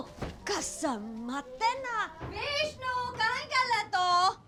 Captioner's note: miss gudi speaking foreign language